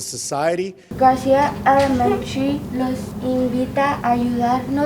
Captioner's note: Spanish